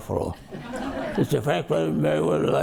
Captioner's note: audience laughs